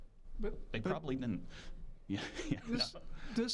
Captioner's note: chuckling